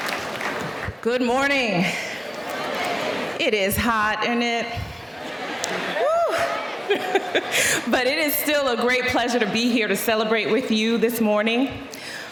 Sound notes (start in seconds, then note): 5.2 laughing